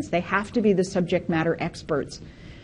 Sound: none

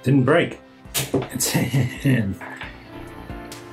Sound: relief laugh/sigh

